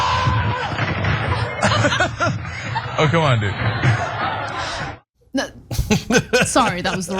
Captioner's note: laugh